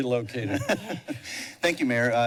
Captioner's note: laughter